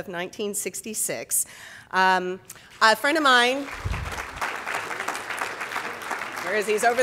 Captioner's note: audience applauding